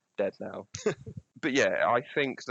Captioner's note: laughter